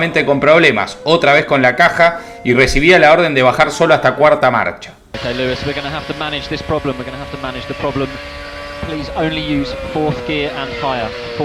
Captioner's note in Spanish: radio